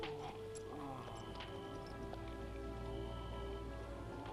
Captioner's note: Torente groaning